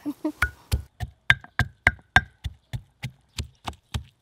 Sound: banging

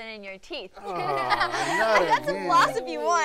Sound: laughter

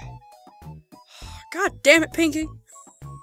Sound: sigh

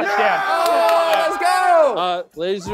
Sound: contestants cheering

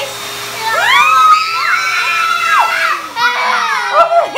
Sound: girls screaming

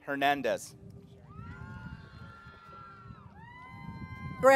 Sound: cheering

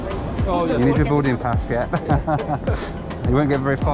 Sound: all laugh

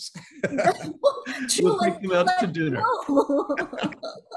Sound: both laughing

